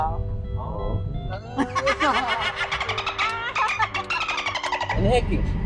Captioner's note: laugh